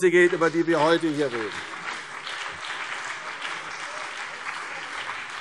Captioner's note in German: Beifall CDU und BÜNDNIS 90/DIE GRÜNEN